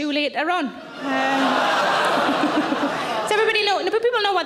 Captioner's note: audience laughing